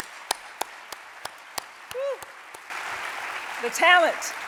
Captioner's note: audience applauding